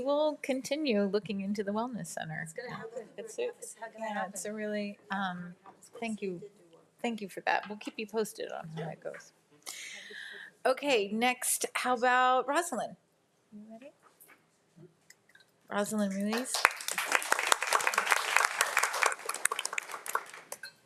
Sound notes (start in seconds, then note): 16.3 audience applauds